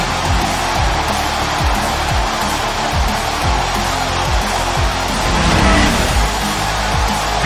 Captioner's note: crowd cheering; heavy rock music